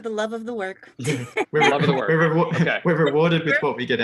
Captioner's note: everyone laughing